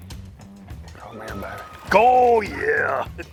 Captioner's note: laughs